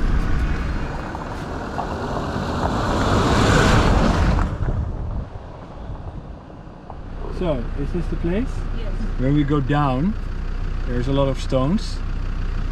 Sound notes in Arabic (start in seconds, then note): 2.0 محرك السيارة يزأر